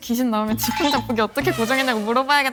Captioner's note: excited talking